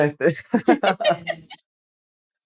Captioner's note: laughter